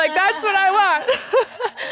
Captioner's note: laughing